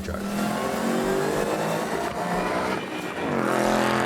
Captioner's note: engine roaring